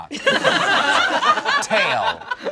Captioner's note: all laugh